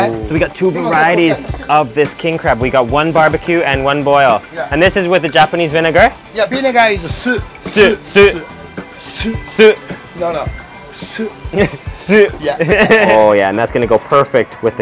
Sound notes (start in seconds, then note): 12.5 laughs